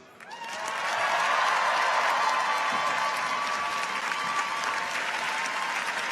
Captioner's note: audience applauds; audience cheers